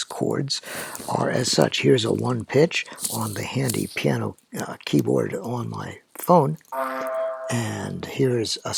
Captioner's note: low C Bloop; low C Bloop w/ octave up